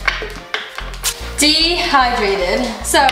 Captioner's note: tape pulling